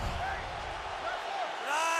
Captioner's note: swoosh